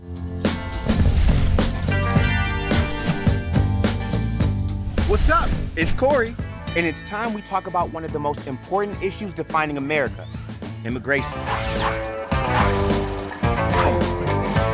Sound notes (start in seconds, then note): 0.1 warm upbeat music; 0.2 logo hums; 1.4 clock ticking; 3.0 text whooshes; 11.2 intense rock music; 11.2 person whooshing